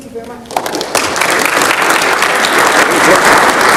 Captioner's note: crowd clapping